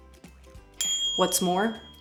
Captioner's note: bing!